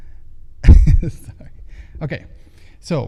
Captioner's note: laughing